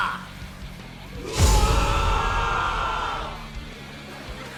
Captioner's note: whooooooooooa!!!!